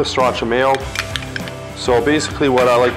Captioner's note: glass clanking